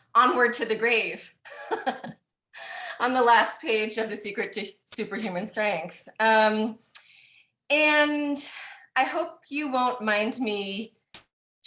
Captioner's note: laughing